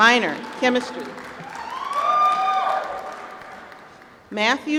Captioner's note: applause